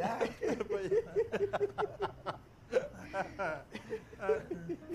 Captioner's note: all three laugh hysterically